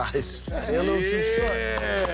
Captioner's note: claps